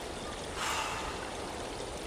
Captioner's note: sighs